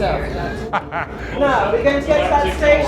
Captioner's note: laughs